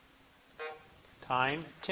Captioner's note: buzzer buzzing